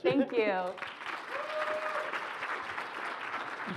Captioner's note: applause